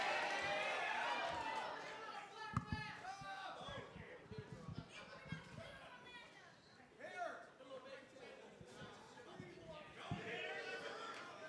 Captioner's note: crowd cheering; crowd chatter